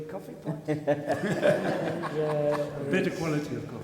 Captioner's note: audience laughs